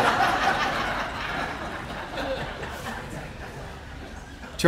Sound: audience laughing

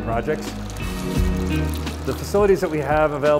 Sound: upbeat music; water slurping

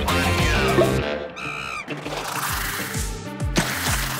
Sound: upbeat music; monkey screams; splash

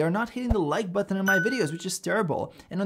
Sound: bell chimes

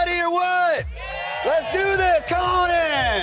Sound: patrons cheering

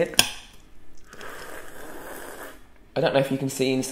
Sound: slurping

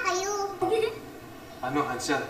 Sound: Ethel chuckles

